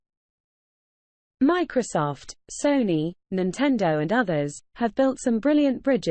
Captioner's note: british female voice